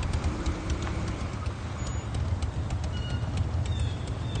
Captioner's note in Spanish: Ruido de los vehículos